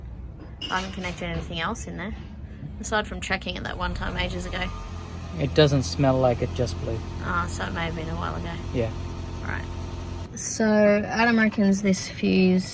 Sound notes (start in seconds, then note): 4.5 car engine starts